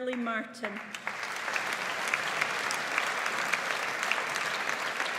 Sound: audience applauds

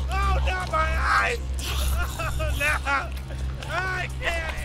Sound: crying

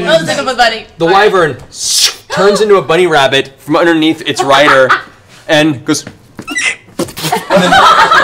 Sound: squeak

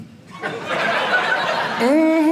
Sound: audience laughing

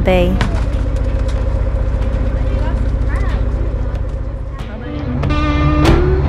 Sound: fishing boat motor

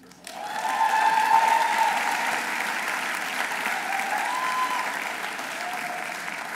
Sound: audience applauding; audience cheering

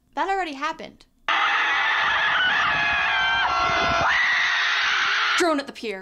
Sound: screaming

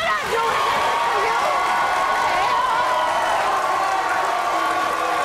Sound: audience cheering

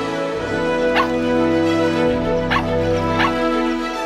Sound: barking

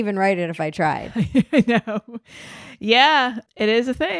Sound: laughs

